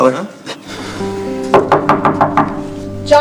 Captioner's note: knock on door